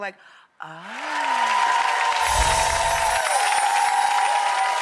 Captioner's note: audience applauding